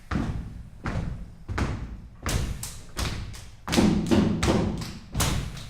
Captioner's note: rhythmic stamping and clapping